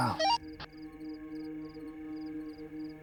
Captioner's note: radio squelch